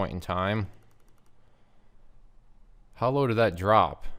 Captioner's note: mouse clicking